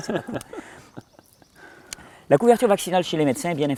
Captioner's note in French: rires